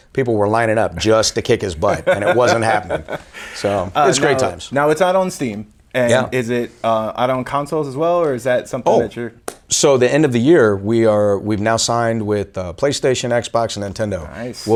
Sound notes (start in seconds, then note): 1.8 laughing